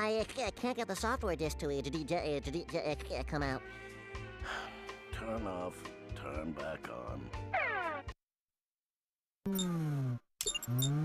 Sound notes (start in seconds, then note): 4.4 sighing; 9.5 beeping